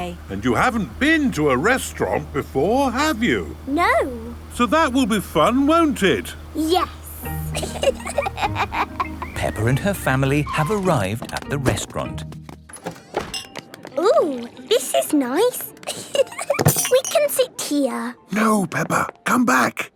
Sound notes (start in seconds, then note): 7.4 both laughing; 13.3 lounge music